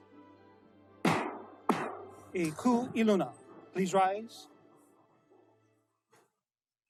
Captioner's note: gavel bangs twice